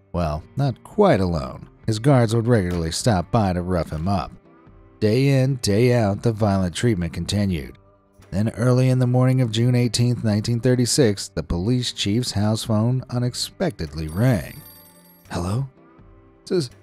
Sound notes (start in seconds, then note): 14.1 phone ringing